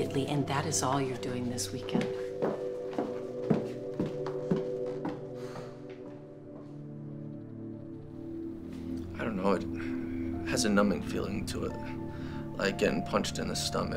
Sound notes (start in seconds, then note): 1.7 footsteps clacking; 5.3 Drew sighs